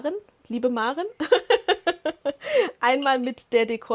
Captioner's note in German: Lachen